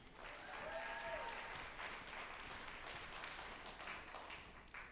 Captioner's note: group applauding and cheering